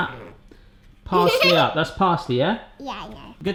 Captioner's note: giggles